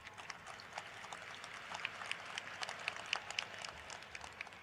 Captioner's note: applause